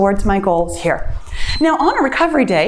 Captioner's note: timer beeps